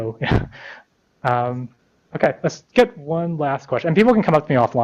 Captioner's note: laughs